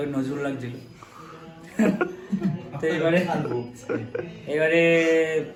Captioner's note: laughs